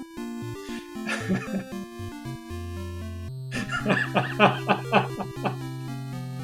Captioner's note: laughs